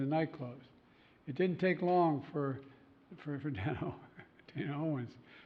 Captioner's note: laughs